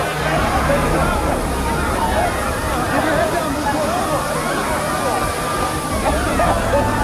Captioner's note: people screaming; gas hissing